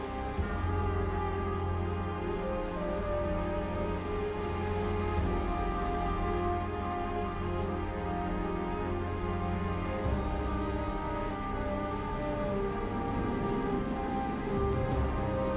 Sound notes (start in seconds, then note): 0.3 brooding music continues; 4.4 water sploshing